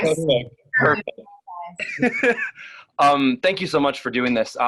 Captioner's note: laughs